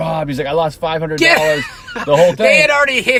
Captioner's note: laughing